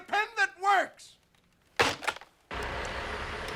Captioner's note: slams phone down